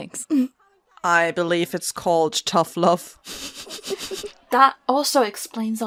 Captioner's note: laughs; Elizabeth laughs